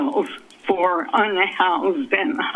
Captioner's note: none